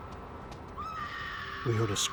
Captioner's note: woman screaming